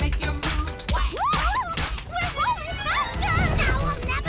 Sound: Minnie yells

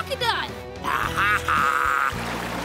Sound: growling

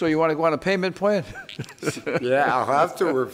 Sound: judge laughs

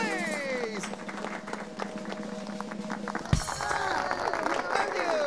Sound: drum roll, applause

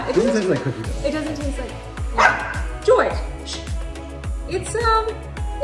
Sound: dog barks

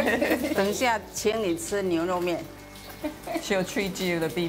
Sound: speaking local dialect

